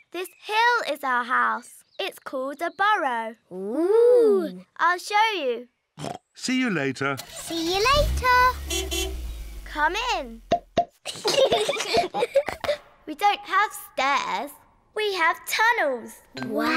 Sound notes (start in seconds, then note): 6.5 snorts; 7.9 horn honks; 11.0 both giggling